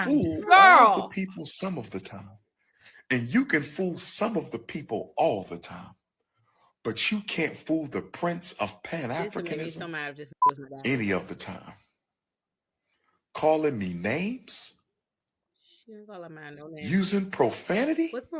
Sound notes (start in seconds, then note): 9.5 ji notification